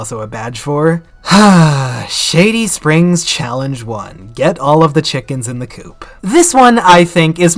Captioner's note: sighhh